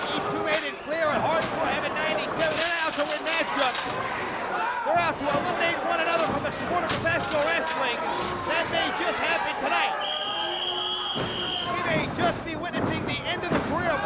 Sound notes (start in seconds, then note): 10.0 whistling